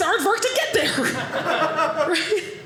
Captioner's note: audience laughing